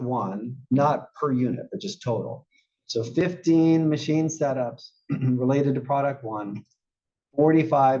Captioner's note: cough